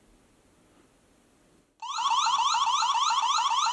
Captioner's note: siren blares